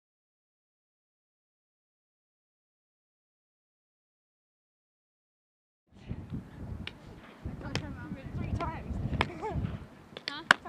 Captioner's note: chatter